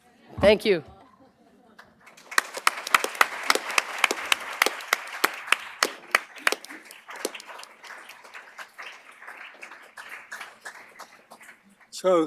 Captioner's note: applause